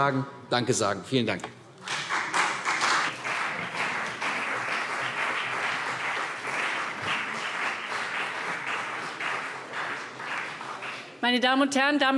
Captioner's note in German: Beifall CDU und BÜNDNIS 90/DIE GRÜNEN